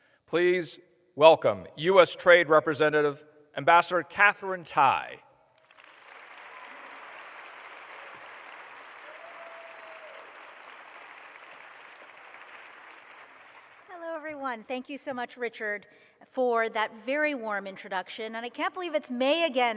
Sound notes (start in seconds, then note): 5.6 applause